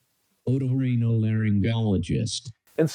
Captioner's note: AI speech